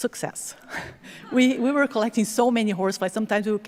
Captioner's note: chuckles; audience chuckling